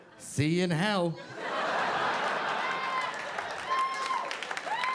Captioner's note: audience laughing